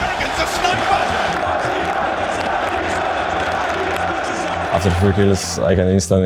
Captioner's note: crowd